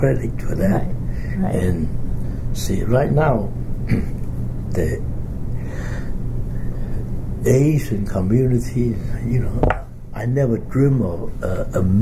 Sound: coughs

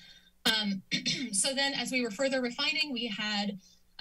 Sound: clears throat

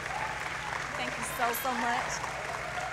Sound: applause

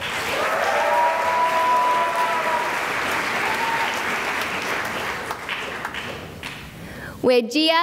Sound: cheering and applause

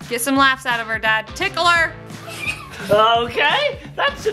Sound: laughing

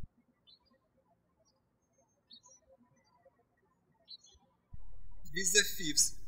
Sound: birds chirping

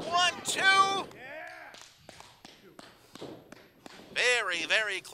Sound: breathing heavily

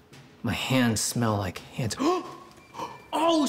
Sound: gasp

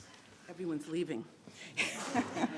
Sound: laughs

